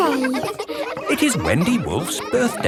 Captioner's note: kids laughing